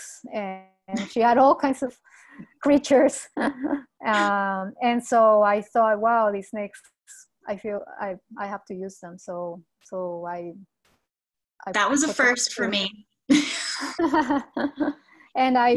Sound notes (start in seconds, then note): 3.4 laughs; 13.4 laughs